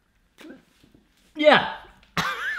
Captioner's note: choking